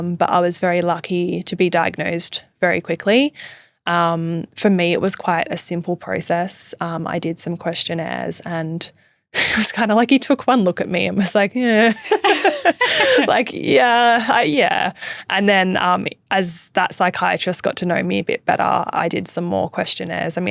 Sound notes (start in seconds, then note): 8.7 laughing; 11.8 both laughing